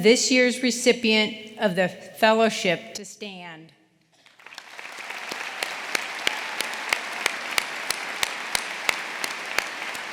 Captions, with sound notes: this year's recipient of the fellowship, to stand. (audience applauding) (audience cheering)